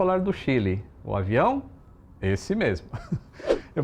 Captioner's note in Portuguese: risos